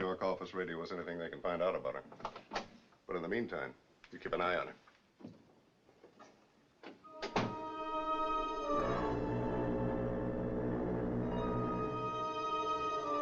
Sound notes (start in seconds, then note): 7.5 foghorn Blowing Loudly